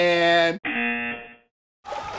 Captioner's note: buzzer